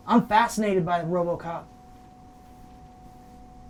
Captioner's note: none